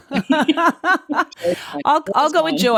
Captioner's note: all laughing